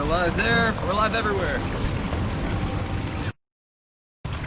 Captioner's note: waterfall